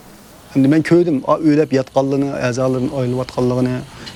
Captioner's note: crickets chirping